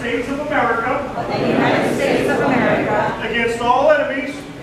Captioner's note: crowd